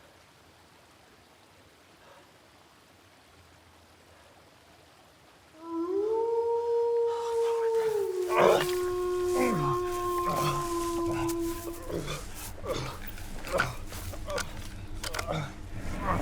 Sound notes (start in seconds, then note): 5.5 wolf howling; 7.4 Arawn groaning; 10.5 suspenseful music; 13.0 rifle clacking